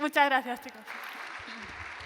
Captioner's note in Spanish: Aplausos